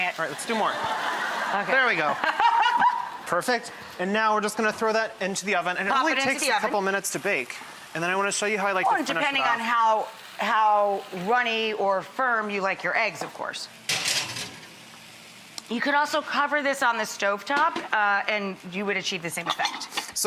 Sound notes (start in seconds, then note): 1.9 audience laughter